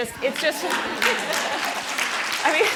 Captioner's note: applause